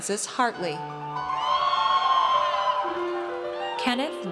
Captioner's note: audience cheers